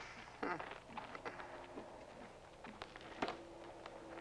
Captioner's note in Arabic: ليندا تضحك